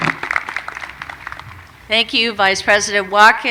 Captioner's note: applause